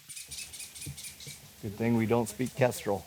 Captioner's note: bird squawking loudly